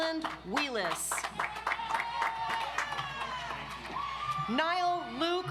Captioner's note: audience applauds